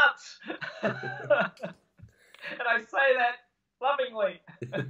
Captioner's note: laughing